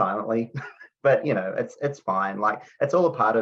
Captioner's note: chuckles